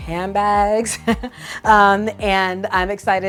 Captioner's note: chuckles